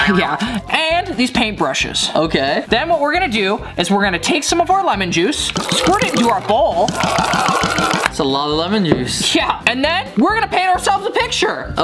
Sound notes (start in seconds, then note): 5.4 glugging